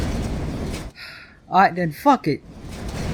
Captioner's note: sigh